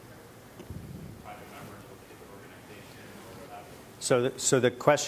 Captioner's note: speaking away from mic